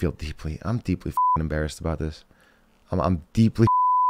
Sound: beep

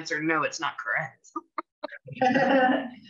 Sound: laughter

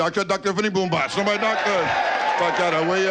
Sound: audience laughing

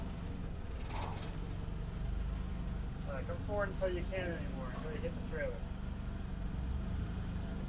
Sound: none

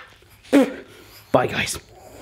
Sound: spitting; kissing

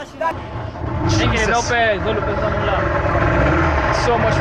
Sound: boat engine idling

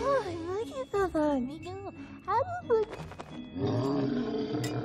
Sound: gurgling

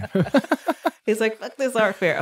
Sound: laughing

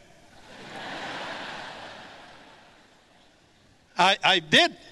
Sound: audience laughs

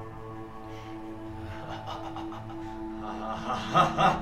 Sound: evil laughter

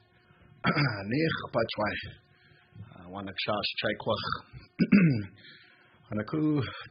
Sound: speaking native lauange

